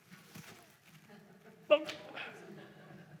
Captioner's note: laughter